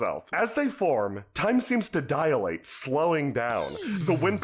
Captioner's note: someone makes slowy-down noises